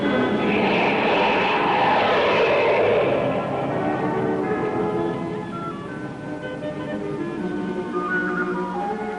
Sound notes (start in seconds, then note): 2.8 rocket engines